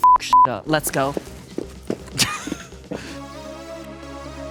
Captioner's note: footsteps thudding; chuckles; upbeat music